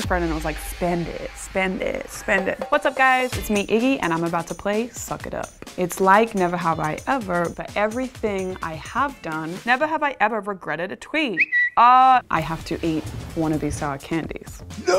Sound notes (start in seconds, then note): 11.3 whistle